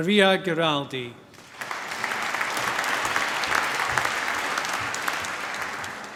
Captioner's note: applause